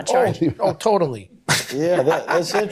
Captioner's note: laughing